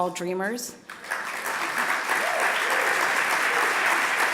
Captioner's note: applause